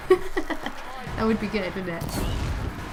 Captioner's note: laughter